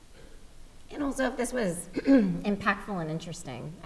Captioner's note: clearing throat